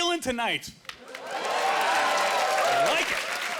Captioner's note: cheering